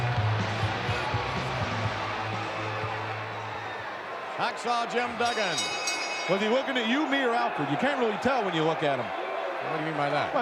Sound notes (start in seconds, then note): 0.0 upbeat music; 0.1 audience cheering; 5.0 bell ringing